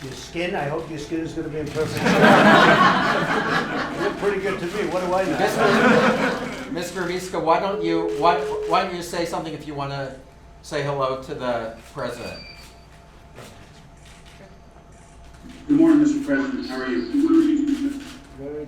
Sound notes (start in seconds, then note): 1.8 laughter